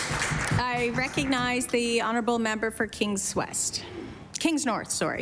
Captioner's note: applause